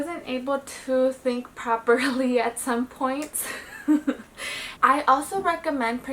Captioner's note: chuckles